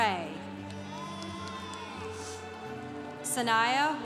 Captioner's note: congregation applauding